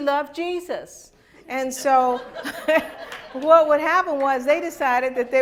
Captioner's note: laughter